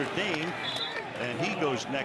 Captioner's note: whistle